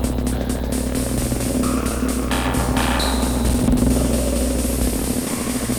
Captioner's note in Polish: Wystrzały nakładają się na siebie; Wystrzały nasilają się